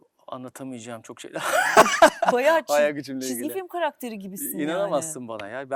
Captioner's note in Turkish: kahkaha